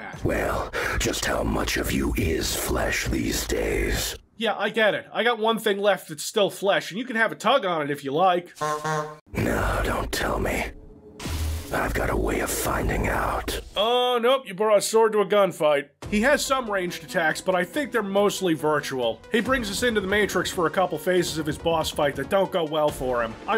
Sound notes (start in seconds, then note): 8.6 honk honk